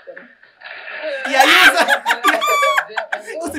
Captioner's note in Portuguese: gargalha